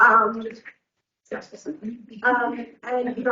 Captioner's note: people mumbling